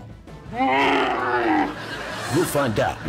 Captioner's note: camel groaning